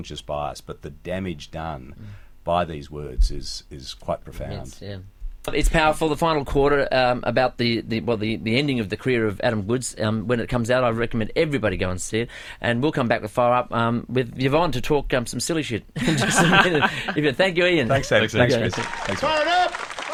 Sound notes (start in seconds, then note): 16.0 laughs